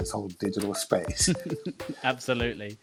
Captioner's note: laughing